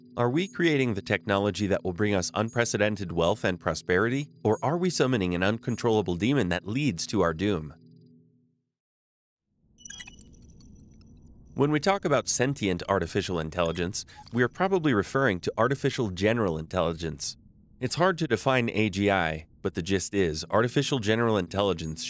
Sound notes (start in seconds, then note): 9.8 futuristic melodious beeps